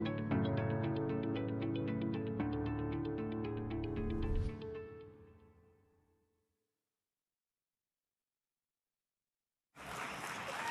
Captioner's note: applause